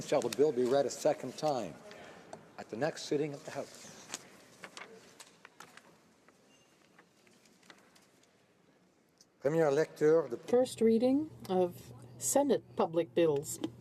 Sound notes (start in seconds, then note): 6.2 speaking French